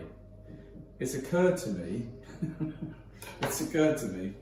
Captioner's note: laughs